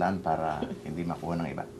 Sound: none

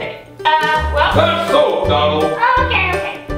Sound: voiceover

